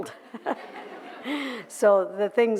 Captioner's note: laughter